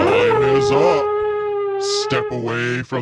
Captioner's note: horn blowing